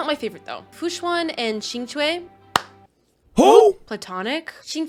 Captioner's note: claps